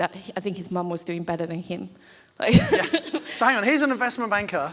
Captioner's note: laughs